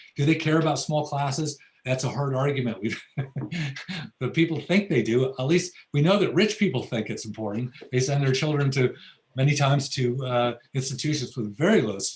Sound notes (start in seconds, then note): 2.6 laughs